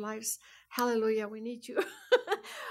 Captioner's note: laughs